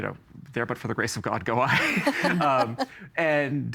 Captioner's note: all laughing